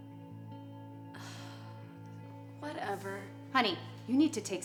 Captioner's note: sighs